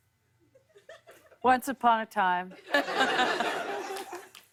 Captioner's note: laughter